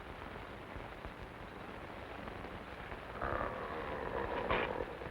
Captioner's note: wolfman growling